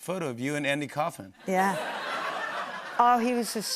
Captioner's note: laughter